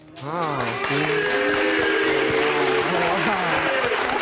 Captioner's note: audience cheering